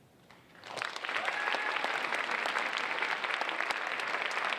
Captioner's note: audience applauding